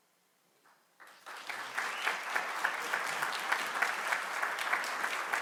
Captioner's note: audience clapping